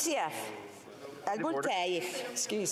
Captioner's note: speaking FRENCH